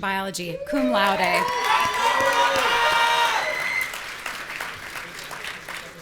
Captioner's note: audience cheering and shouting